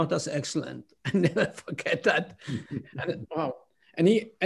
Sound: laughter

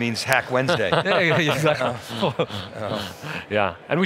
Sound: laughing

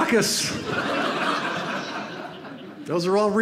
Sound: audience laughs

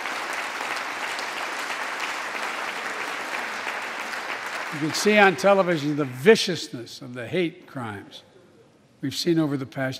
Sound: applause

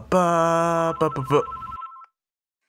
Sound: phone rings

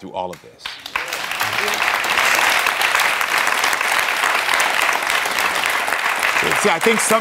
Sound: audience clapping

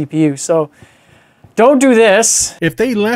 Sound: sigh

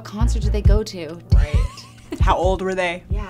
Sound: laughing

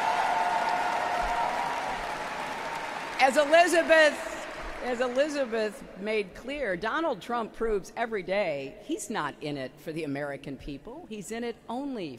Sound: applause

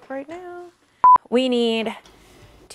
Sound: beep

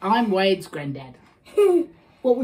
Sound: laughs

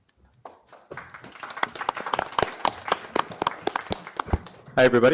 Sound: applause

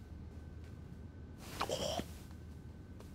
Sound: gags

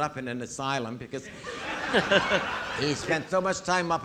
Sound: audience laughing

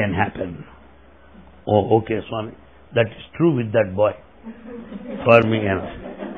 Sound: laughter

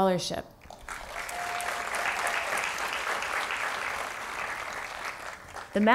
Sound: applause

